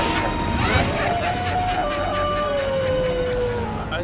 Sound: evil laughter, wind howling; wolf howling

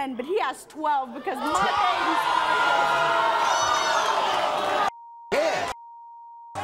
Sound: audience boos

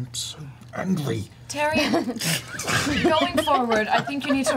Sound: all laugh

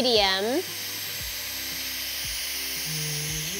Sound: machine whirring

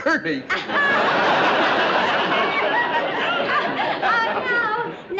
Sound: chuckles

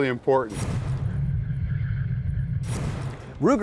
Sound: dramatic transition noises

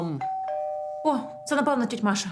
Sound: doorbell

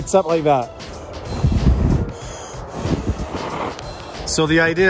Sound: blowing

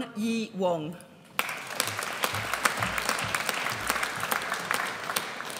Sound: audience applauds

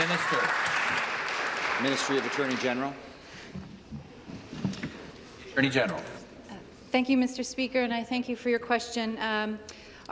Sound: applause

